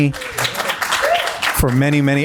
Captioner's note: audience applauding